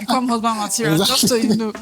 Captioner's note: laughs